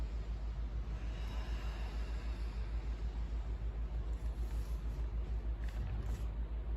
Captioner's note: inhale; exhale